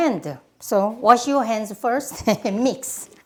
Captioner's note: laughs